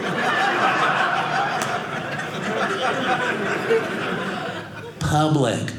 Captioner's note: audience laughing